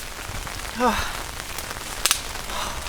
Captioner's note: rain